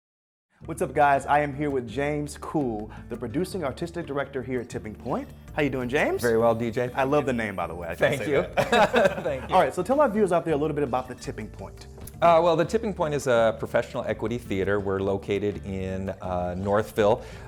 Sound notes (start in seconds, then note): 8.2 laughs